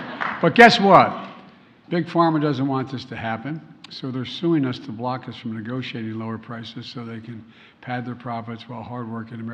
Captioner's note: laughter